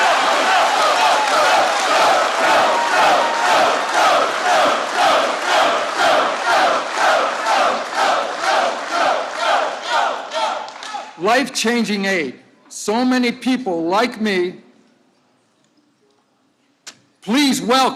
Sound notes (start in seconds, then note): 6.5 applause